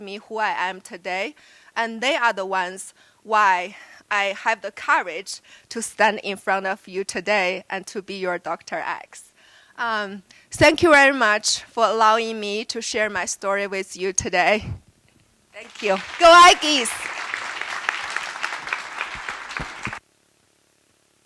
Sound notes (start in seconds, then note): 15.6 applause